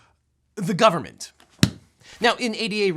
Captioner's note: book slams